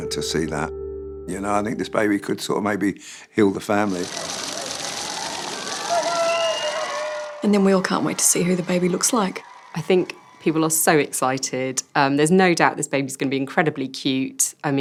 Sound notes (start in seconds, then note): 3.9 cheering